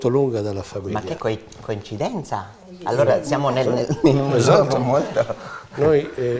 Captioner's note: chatter